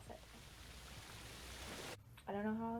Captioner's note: waterfall sound effect